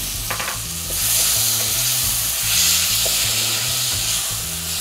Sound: pan sizzling

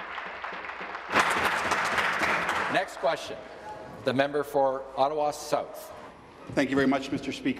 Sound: applause

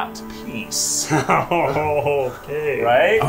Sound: laughing

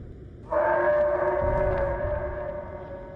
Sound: yeti howl

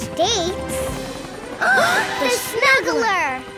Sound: gasping

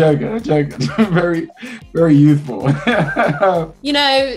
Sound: laughs

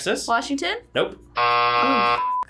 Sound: buzzer rings

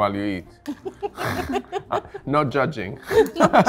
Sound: laughing

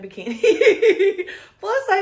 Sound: woman laughs

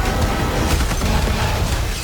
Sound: gunfire

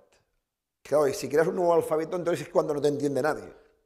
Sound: speaking spanish

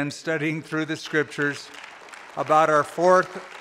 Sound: applause

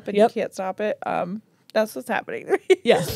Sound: laughs

